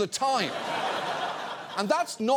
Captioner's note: audience laughs